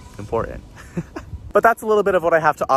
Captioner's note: laughs